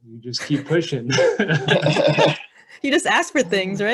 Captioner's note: laughing